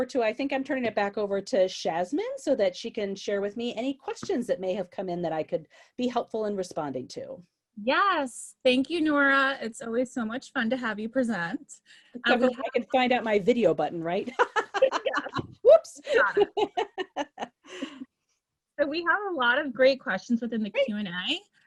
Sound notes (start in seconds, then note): 16.1 laughs heartily